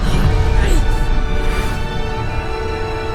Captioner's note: grunts